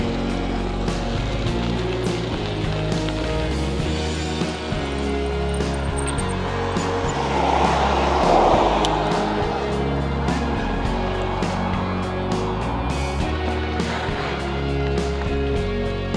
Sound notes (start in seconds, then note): 7.1 traffic passing